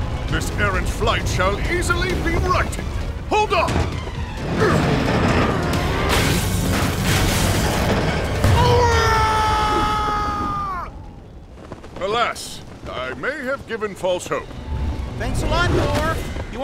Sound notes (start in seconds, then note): 4.3 grunts; 8.4 screams